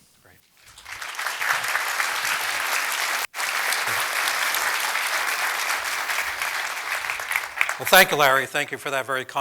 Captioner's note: applause